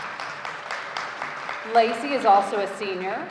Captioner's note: audience applauding